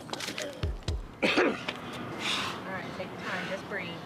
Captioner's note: coughing